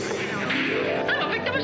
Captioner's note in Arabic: صفعة اليد